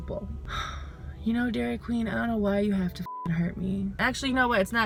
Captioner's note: sigh